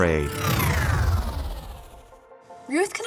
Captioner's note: warp noise